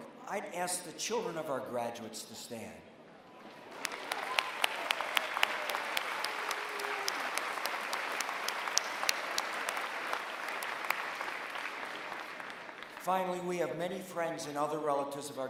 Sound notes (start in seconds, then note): 3.6 applause